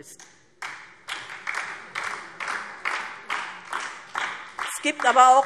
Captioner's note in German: Beifall DIE LINKE und vereinzelt SPD